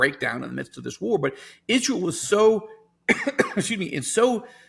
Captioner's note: coughs